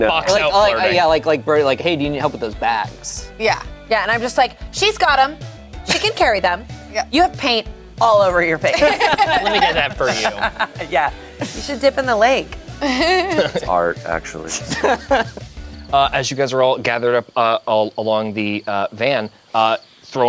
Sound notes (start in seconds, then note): 8.7 group laughs; 14.4 group laughs; 14.5 laughs